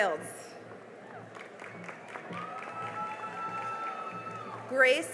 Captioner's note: cheering and applause